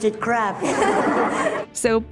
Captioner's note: kids giggling